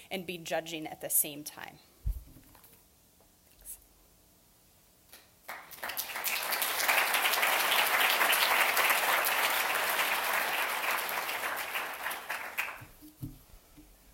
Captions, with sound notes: and be judging at the same time. [AUDIENCE CLAPPING]